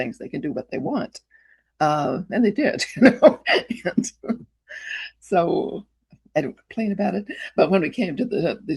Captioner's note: chuckles